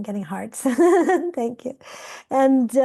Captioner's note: laughing